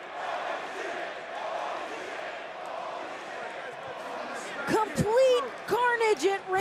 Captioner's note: crowd cheering